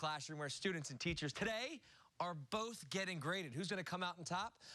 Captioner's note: none